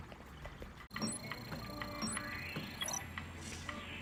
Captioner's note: beeping